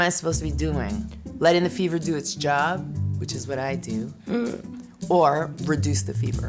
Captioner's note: gasps